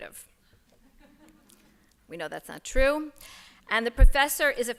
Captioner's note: laughter